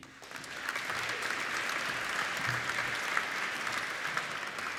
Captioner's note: applauding